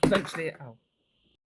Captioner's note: mask drops onto floor